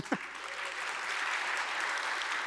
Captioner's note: applause